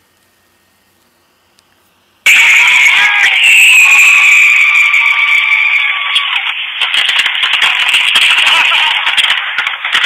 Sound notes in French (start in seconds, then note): 3.1 feux d'artifices qui éclatent, gens qui rient